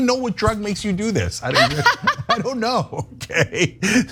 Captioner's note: laugh; laugh